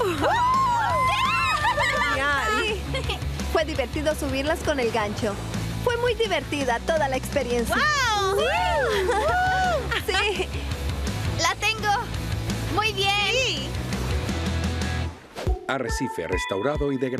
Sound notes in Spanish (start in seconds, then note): 1.3 todas riendo; 7.8 todas gritando